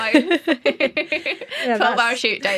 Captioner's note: laughter